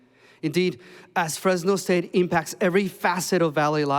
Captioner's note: none